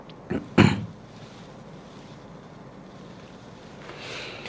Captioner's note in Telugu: గొంతు సవరించుకోవడం